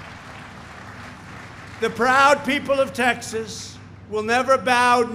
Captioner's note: applause